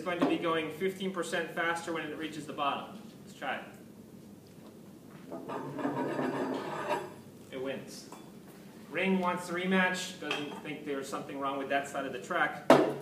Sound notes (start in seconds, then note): 5.4 background metallic sounds